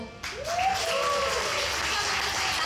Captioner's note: audience cheering